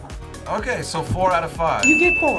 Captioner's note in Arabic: قرعات الجرس